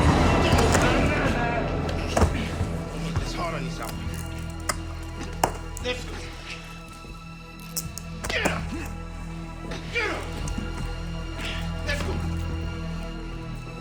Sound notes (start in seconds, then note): 0.7 gun clatters; 9.2 shouts